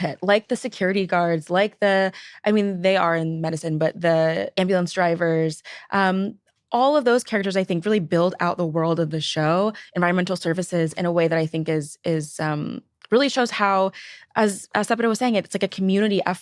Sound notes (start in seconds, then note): none